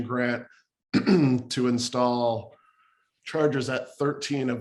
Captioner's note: clear throat